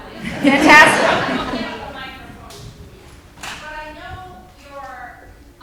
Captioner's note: audience laughs